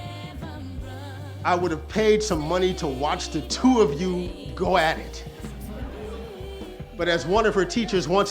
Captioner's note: audience laughs